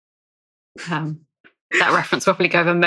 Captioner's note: laughs